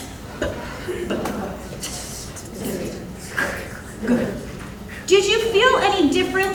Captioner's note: audience imitating sounds